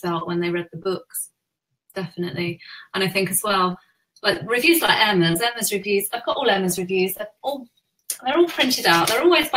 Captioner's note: none